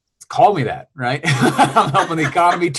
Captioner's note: laughs